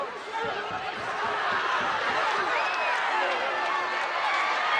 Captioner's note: crowd cheering